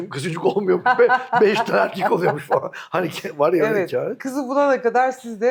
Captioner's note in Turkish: kahkaha